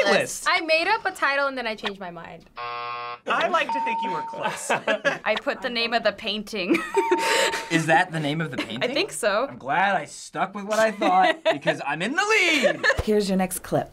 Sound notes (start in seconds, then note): 2.5 buzzer